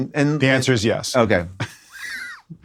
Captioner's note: laughs